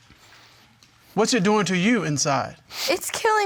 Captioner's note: none